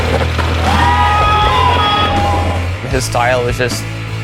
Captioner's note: crowd cheers